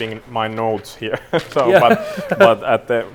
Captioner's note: both laughing